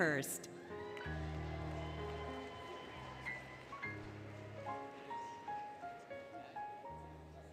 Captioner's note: applause, Cheering, Music